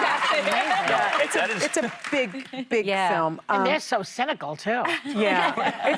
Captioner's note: applause